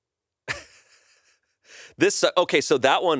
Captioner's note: laughs